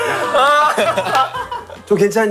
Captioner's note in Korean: 꺄르륵